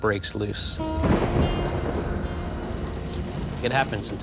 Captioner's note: thunder rumbling